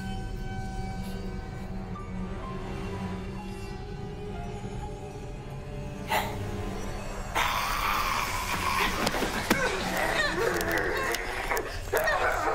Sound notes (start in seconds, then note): 7.4 Tracy snarling; 9.3 Lyne grunting